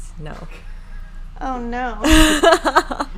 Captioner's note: laughing